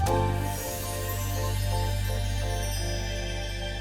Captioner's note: chimes tinkling